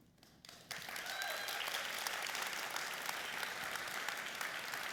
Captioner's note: applauding and cheering